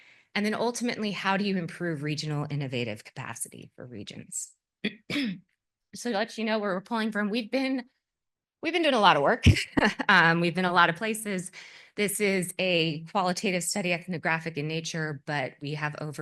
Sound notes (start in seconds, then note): 4.8 cough; 9.4 laugh